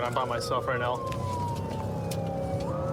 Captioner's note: siren blaring